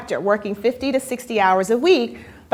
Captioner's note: none